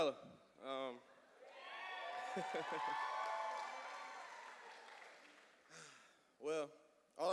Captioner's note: cheers and applause